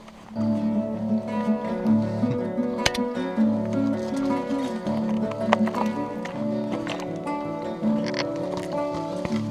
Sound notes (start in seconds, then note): 1.8 chuckles